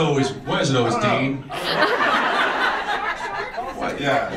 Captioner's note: audience laughs